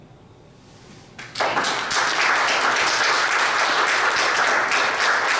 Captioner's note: audience applauds